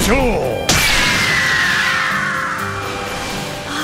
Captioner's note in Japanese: ロック鳥の鳴き声